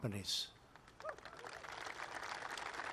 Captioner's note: applause